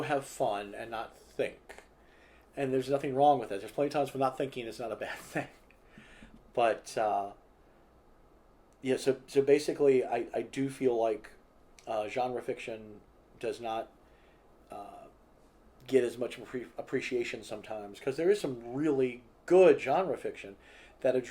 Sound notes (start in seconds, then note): 7.9 laughs